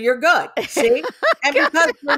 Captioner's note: laughs